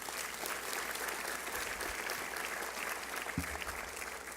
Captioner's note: applause